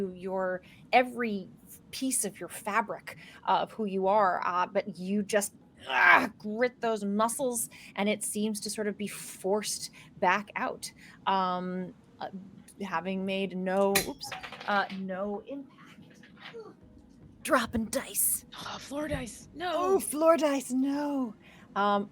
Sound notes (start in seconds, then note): 5.8 grunts; 14.2 dice clatter